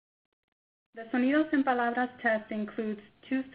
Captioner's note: speaks in foreign language